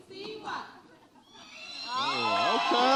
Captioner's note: audience applauds and cheers